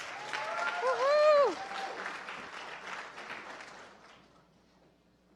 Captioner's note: applause